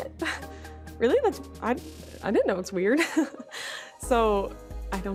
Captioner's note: laughs